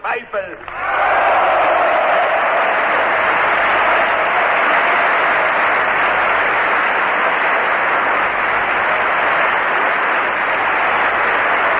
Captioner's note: applause